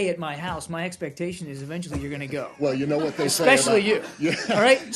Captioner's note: laughter